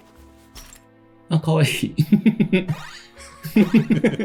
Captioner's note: laughs